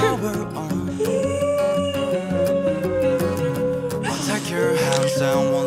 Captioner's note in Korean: 울음소리